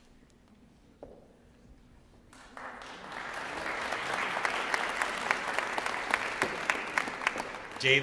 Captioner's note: applause